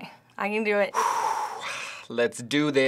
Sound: breathes in preparation

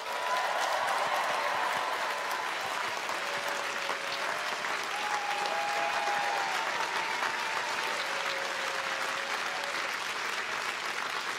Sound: cheers and applause

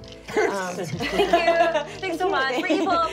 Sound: laughing

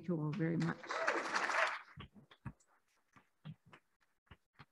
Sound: applauding

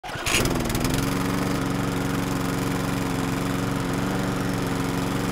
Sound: lawnmower engine roars

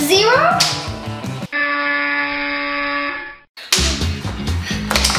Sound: buzzer noise

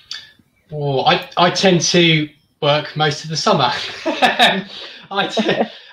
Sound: laughs

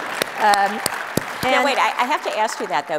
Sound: audience applauds

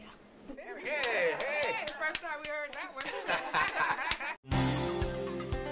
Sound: family cheers

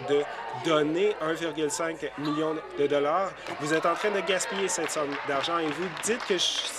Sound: applause

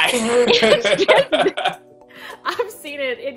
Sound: laughing

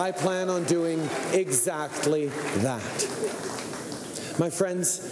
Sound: cheering and Applause

